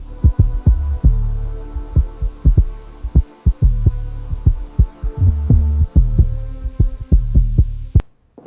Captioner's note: heartbeat